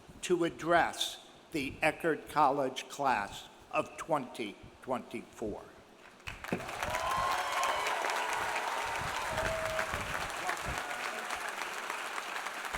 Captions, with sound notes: to address the Eckerd College Class of 2024. (audience cheering) (audience applauding)